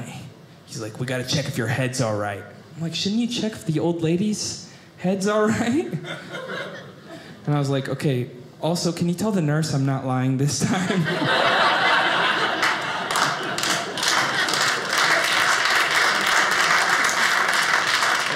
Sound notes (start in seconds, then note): 10.6 audience laughing; 13.9 audience applauding